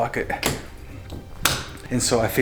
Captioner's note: door lock clicks